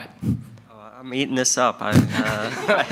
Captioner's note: attendees chuckle